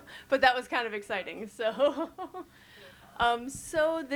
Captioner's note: chuckles